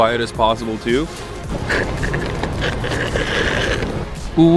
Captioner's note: loud straw sucking